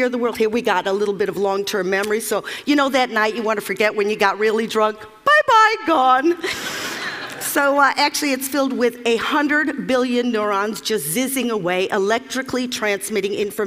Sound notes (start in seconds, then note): 6.4 Laughter; 6.4 笑聲